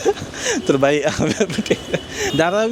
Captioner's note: laugh